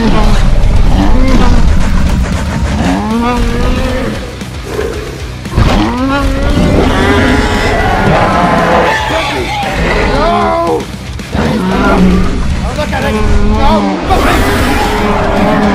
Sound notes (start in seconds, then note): 5.5 Indominus roars